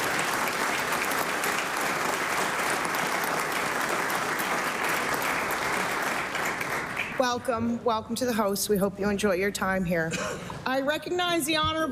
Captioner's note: applause